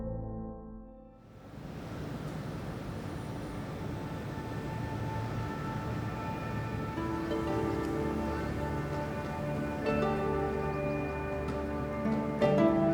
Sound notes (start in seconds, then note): 2.1 traffic; 7.8 light music